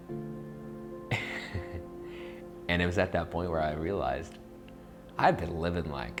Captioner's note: laughs